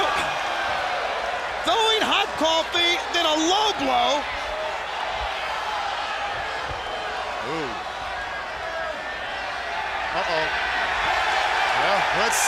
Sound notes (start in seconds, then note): 0.0 crowd cheering; 4.0 crowd chatter; 11.3 crowd cheering